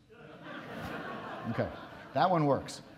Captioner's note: audience laughs